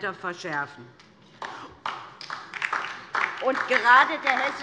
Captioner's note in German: Beifall DIE LINKE